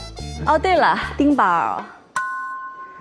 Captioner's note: ding